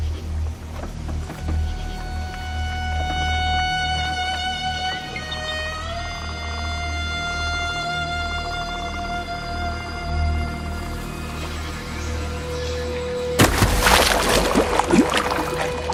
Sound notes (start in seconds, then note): 1.4 boat creaking; 7.1 soft dramatic music